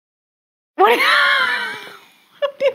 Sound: laughs

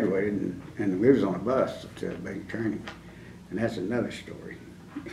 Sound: laughs

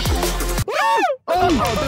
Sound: Sidemen squealing

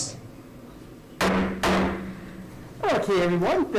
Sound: gavel bangs twice

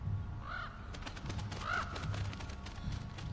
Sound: cawing

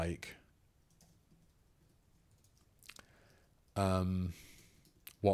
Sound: silence

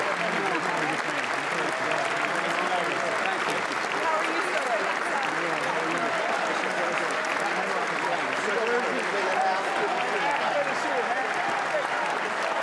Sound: cheers and applause

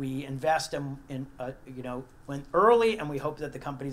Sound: none

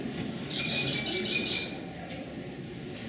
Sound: kestrel Call

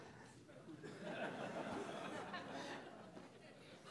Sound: laughter

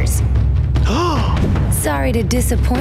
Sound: gasping

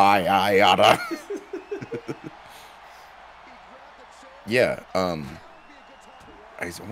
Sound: laugh

